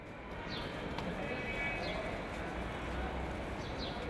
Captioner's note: urban noises